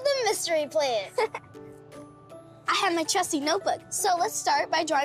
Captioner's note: laughs